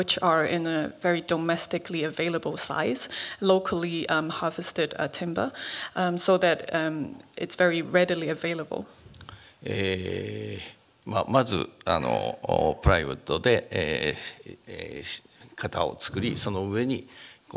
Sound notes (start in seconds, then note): 9.5 speaking japanese